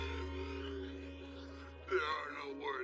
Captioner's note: fake crying